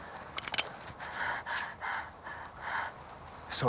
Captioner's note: cocks gun